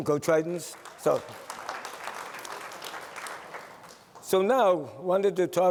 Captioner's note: applause